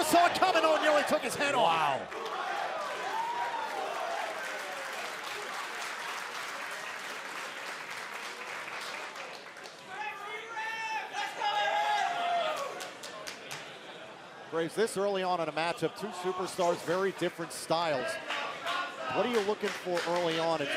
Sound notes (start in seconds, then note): 3.2 crowd cheering; 5.0 crowd chatter